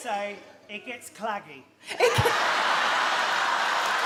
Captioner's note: she laughs